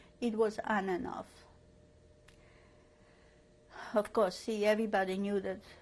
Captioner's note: pauses for 3 seconds